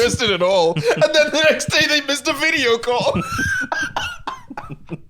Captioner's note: laughs